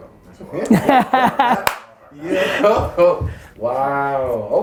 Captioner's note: laughs